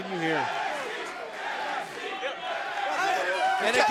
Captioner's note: crowd cheering